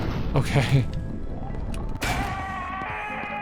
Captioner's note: gun fires